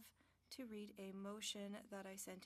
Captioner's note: speaking French